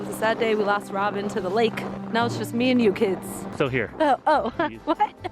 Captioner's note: laughs